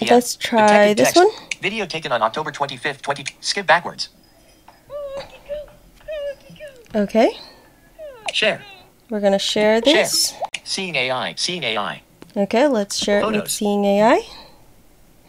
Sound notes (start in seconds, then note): 7.2 whining dog sounds